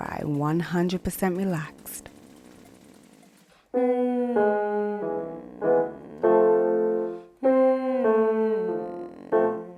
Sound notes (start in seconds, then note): 3.8 ascending piano scales; 3.9 gentle humming